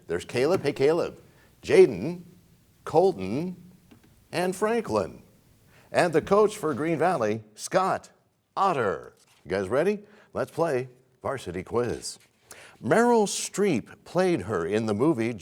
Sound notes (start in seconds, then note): none